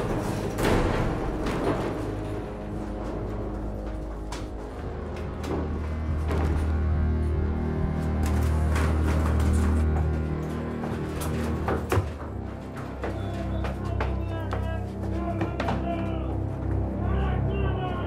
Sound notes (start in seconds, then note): 14.6 men chattering